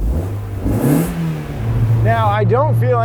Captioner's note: loud engine revving; soft engine revving